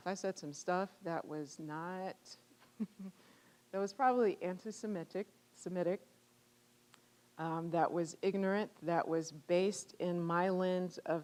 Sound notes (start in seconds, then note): 2.6 chuckling